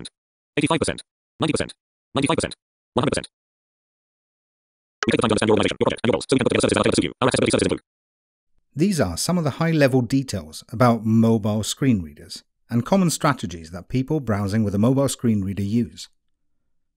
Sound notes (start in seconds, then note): 4.9 VoiceOver, speaking at a very high rate